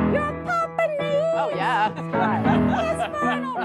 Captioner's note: laughs